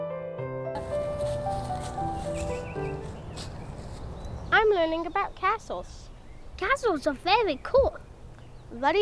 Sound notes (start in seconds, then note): 0.7 leaves rustle